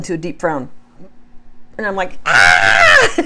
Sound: laughs

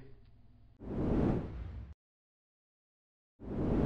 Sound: air rushing

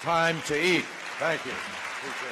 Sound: applause

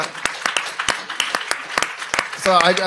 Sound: audience clapping

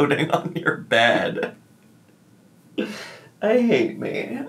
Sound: laughs

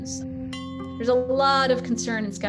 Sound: bell tolls

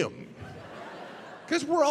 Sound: audience laughing

